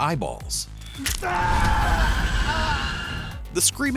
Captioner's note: guy screaming